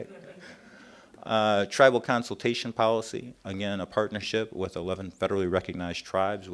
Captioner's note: laughter